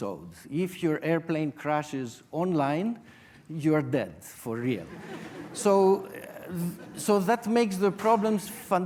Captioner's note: audience laughter